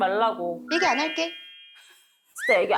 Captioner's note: simple sound effect